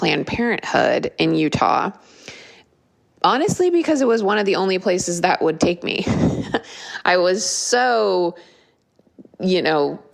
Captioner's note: laugh